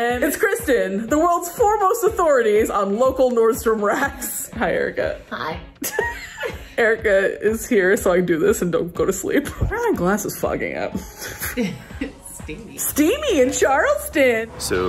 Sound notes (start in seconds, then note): 5.8 laughs